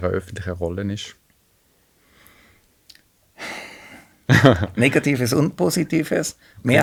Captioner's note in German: seufzt